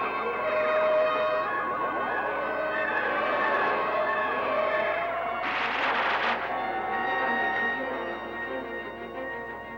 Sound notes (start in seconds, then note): 5.4 electrical explosion